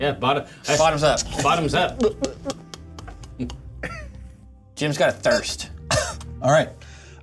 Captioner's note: gulp Sounds